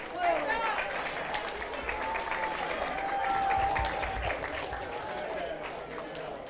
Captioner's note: cheers, applause